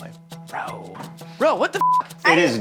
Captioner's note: beeps